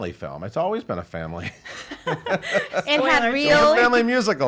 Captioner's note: laughs